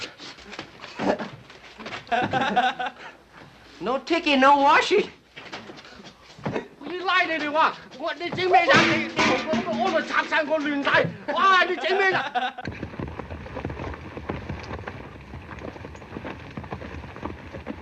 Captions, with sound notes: (laughing) No tickee, no washee. (yelling in Chinese) (laughing)